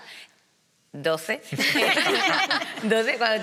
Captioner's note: they laugh